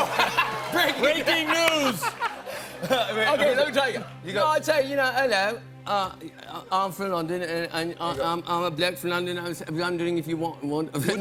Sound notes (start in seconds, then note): 0.0 laughs; 3.9 cockney accent